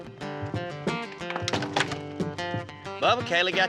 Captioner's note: saddle thuds